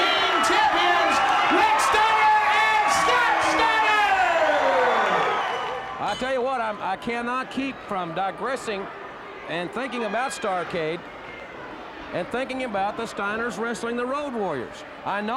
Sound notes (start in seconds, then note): 4.8 audience cheers